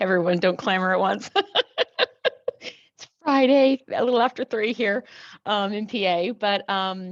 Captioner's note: laugh